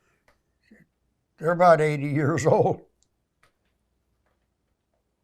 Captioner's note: laughing